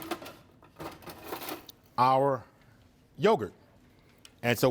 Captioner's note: utensils clang